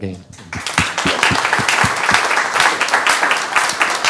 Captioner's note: student applauding